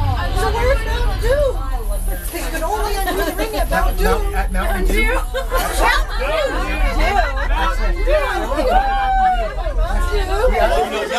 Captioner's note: party chatter